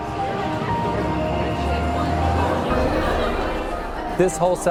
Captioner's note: people chattering